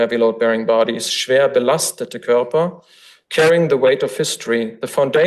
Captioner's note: foreign language